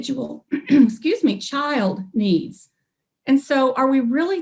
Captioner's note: coughs